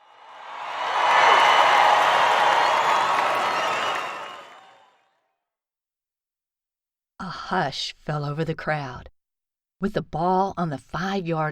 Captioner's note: loud crowd sounds